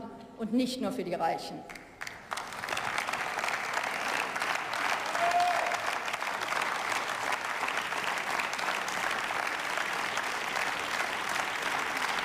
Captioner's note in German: Beifall